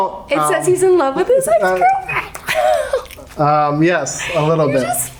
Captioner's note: finger flicks